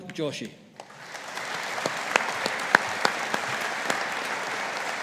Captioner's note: audience applauding